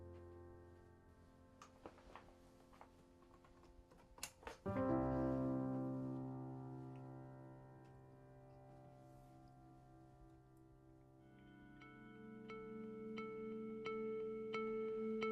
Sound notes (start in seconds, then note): 3.2 clicking